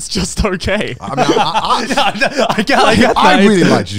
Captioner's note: all laughing